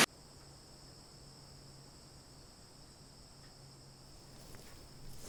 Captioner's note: chirping insects